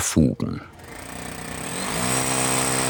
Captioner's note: whirring